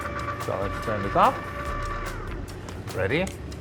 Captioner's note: ice cream maker hums